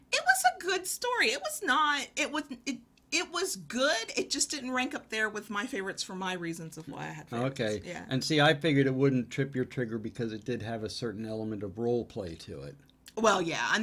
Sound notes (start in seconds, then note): none